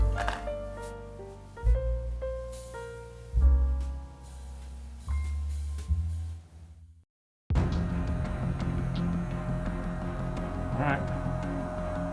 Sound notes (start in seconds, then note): 0.0 relaxing music continues; 7.5 intense music; 8.0 heat gun whirring